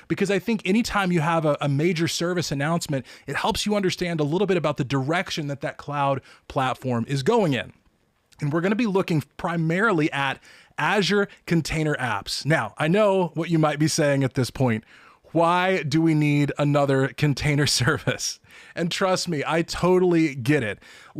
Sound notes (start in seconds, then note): 17.8 chuckles